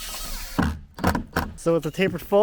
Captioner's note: drill whizzing; drill grinding